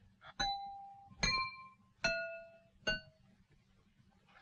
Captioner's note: knife clanging